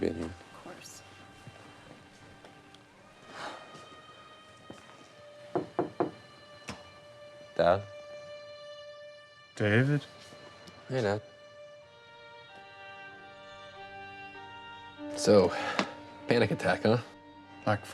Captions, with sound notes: - Thanks for being there. - Of course. (David knocks) - Dad? - David? - Hey Dad. (somber music) So, panic attack, huh?